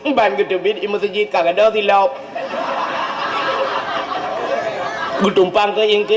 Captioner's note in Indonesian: tertawa